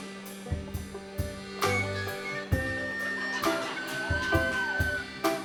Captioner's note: laughter